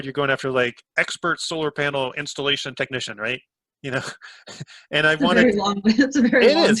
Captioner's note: laughs